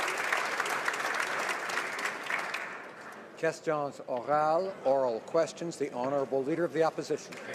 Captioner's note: some Applause